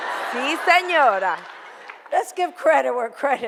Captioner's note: foreign language; audience laughter